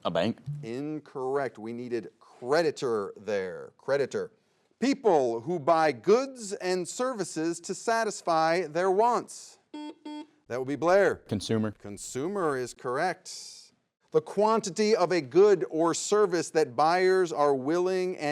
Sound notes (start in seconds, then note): 9.7 buzzer beeps